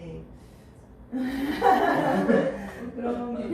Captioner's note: Laughter